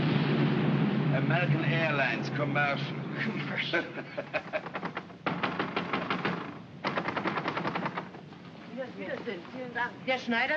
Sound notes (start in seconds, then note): 0.0 aircraft roars overhead; 0.9 scoffs; 3.2 both chuckle; 4.4 banging on door; 8.6 speaking in German